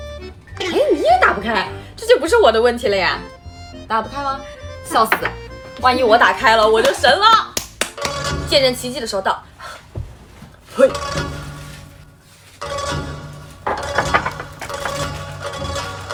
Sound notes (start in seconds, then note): 10.8 spit